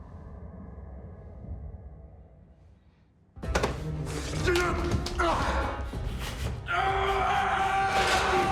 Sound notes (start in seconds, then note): 2.9 tense music; 4.0 Anders grunts and groans; 6.7 Anders screams